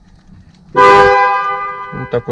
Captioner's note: car horn blares